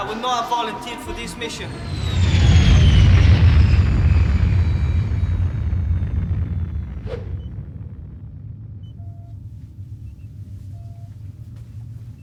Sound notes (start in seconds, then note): 2.1 ship rumbling